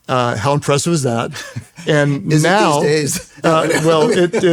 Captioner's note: laughs